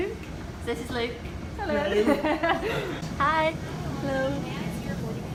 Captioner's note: laughs